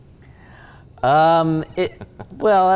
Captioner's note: laughing